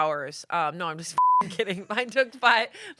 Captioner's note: beep